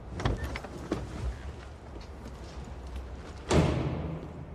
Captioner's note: door clicking